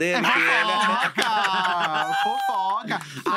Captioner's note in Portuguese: risos